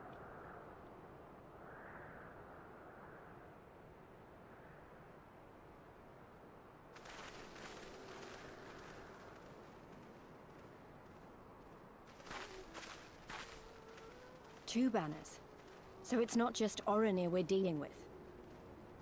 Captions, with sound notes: (fire crackling) Two banners. So it's not just Oren here we're dealing with.